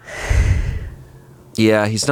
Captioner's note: sighs